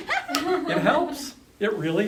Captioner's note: laughing